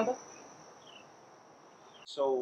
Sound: birds chirping

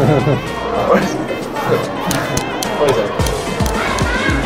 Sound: laughing

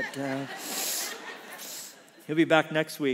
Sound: congregation laughs

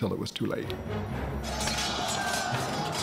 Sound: swords clanging

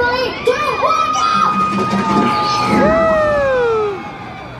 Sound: rollercoaster roaring

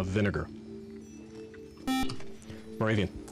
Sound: beep

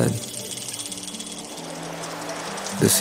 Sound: gentle Ocean Waves

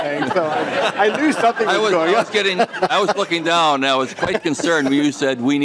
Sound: laughing

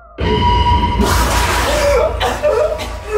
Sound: music slowly fades; water splashing; gasping and coughing

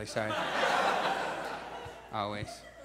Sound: audience laughs

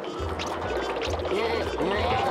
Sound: murmuring

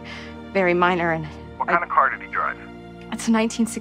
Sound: on phone

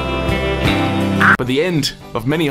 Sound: pained screech

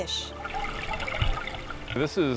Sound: water bubbling

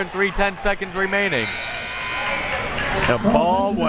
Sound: buzzer

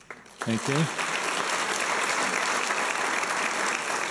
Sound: applause

